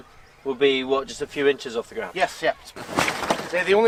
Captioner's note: none